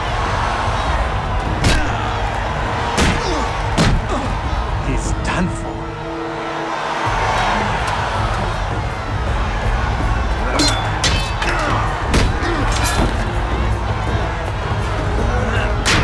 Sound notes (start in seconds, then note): 6.9 crowd cheering; 10.1 both grunting